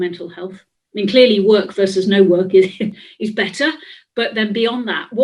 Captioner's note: laughs